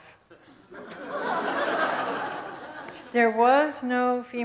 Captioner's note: audience laughs